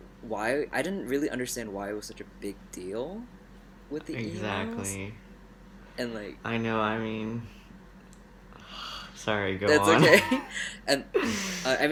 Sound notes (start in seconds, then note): 8.9 sigh; 9.7 laughs